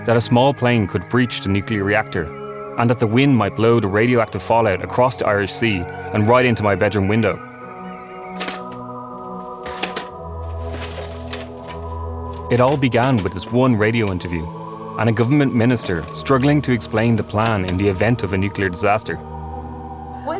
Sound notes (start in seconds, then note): 8.6 VHS tapes clattering